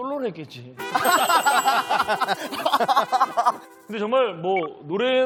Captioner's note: everyone laughs